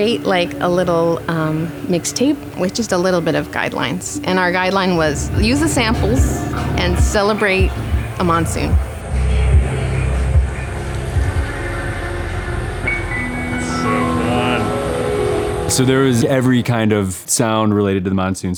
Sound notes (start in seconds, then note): 8.5 monsoon sounds over music bed